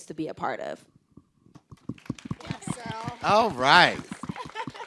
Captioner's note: group clapping